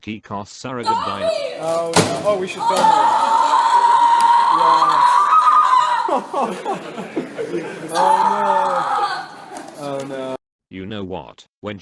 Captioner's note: 1 Simps Screaming